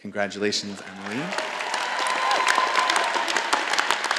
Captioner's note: all applauding